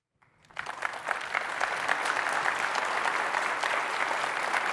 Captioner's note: applause